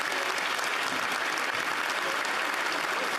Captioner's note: cheering; applause